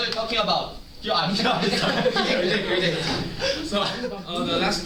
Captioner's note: laughter